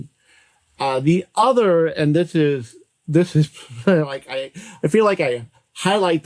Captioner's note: laughs